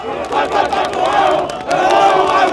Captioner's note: chanting